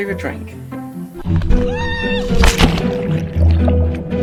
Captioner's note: screaming; water rushing